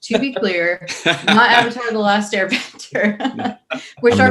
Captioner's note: laughing